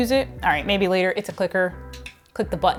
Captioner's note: clicks clicker